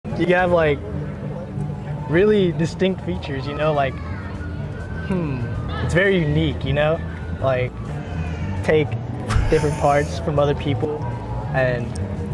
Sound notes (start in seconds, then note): 10.9 laughs